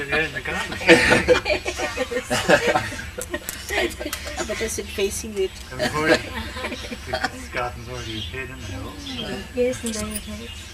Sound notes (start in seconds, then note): 0.0 laughs; 5.8 laughs